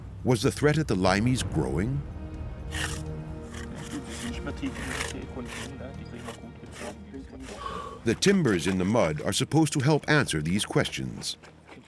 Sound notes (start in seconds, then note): 3.7 speaking German